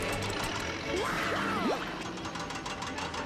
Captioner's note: yelling